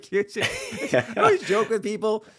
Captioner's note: laughing